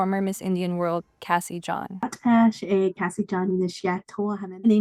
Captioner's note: speaking in Native language